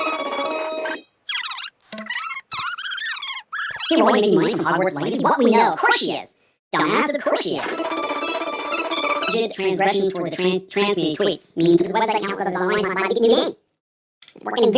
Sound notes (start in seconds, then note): 0.0 squeaky song; 1.1 squeaky dialogue; 7.7 squeaky dancing